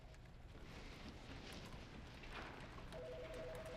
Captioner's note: telephone ringing